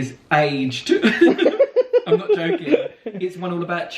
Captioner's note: both laugh